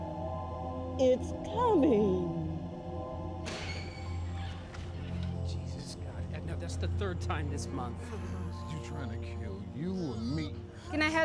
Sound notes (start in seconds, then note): 3.4 door creaks